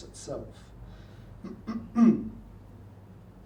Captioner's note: clears throat